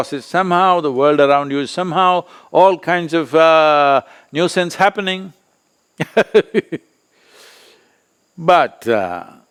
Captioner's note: laughs